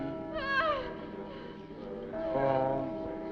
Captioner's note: people chanting